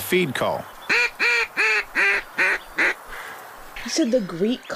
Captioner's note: blowing call